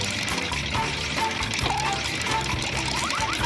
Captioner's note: boink